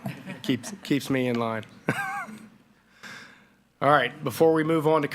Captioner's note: laughs